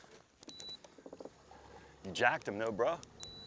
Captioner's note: beeping; beeping